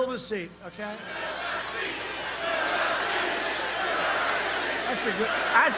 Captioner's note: crowd chanting